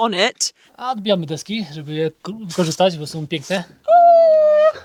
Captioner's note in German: spricht in einer Fremdsprache